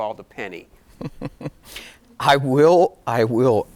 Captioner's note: giggling